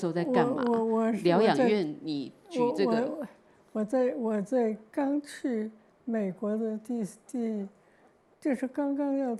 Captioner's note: Mandarin